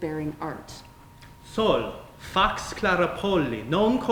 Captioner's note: speaking latin